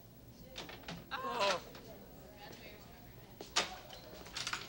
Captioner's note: Gus shrieks